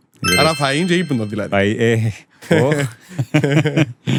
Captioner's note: laughter